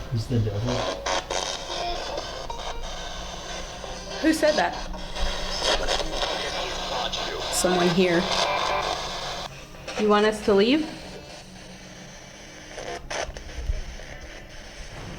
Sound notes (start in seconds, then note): 5.1 spirit box voices